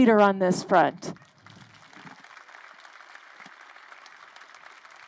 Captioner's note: crowd applauding